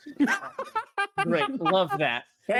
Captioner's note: Omega laughing